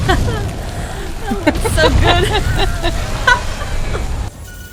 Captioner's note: still laughing; laughs